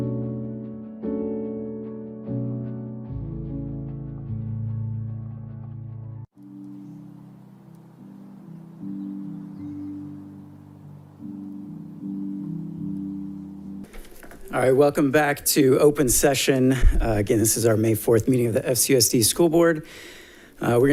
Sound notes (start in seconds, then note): 0.0 smooth upbeat music; 9.0 birds chirping; 9.0 soft music